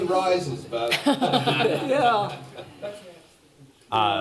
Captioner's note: laughter